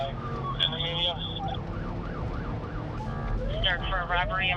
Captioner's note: sirens; police radio chatter